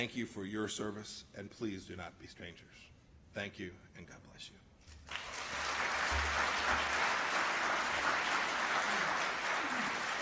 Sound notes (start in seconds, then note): 5.0 applause